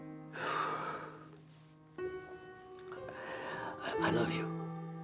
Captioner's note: sighs